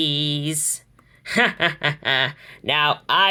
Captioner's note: Hades laughing